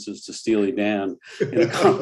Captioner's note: laughter